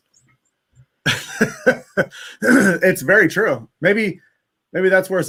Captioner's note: laughs